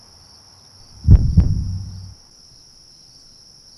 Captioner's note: heartbeat